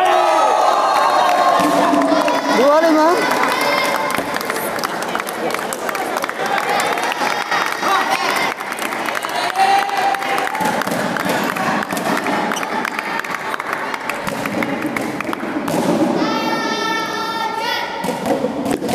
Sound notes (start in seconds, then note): 0.2 applause; 8.4 applause